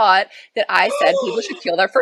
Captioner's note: gasps